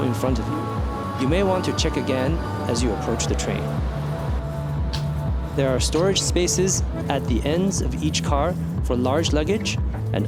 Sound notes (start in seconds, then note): 5.4 train interior